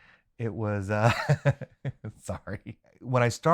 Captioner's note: laughs